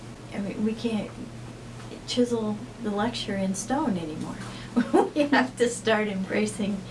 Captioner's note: laughs